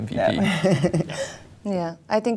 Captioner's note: laughing